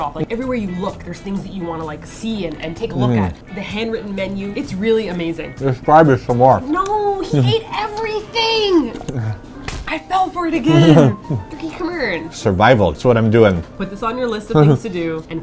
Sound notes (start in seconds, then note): 10.6 giggling, pleased with himself